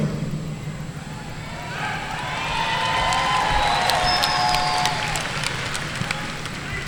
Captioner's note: audience cheering and applauding